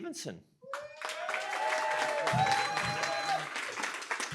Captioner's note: cheering, applause